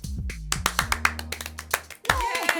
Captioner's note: clapping